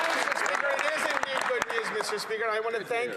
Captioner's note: some Applause